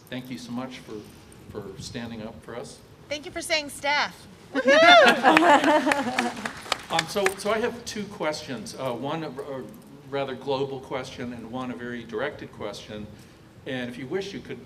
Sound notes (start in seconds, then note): 5.0 applause